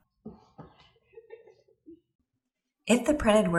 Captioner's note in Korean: 낄낄거림